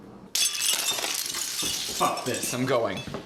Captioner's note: jingling beads